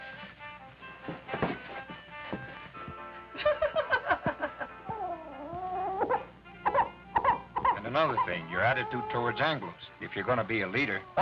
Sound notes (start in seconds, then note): 0.3 upbeat music; 3.3 women laughing; 4.9 baby fussing